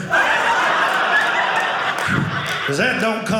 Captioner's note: audience laughing